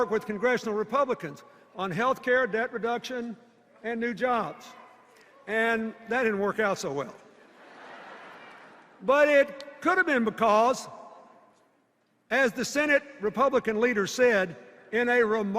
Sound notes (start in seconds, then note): 7.4 laughter